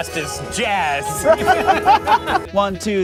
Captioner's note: laughing